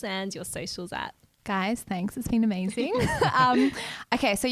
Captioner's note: laughs